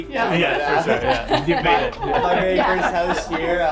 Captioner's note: laughs